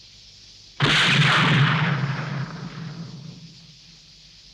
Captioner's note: rifle firing